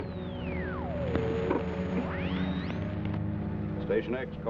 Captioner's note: device warbles